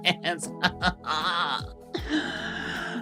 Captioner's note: laughs